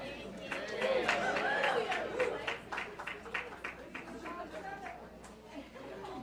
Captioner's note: audience members cheering